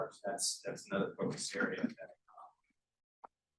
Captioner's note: sound distorted